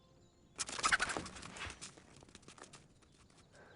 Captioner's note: chittering